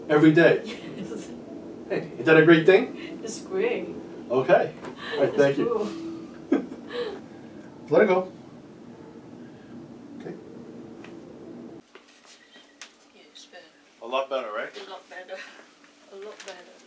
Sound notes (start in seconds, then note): 0.5 laughs; 6.2 laughter